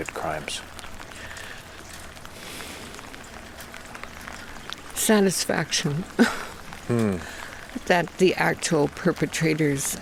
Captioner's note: rain falling